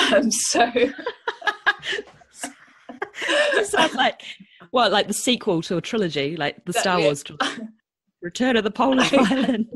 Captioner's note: laughs